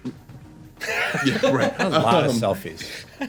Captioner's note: laughter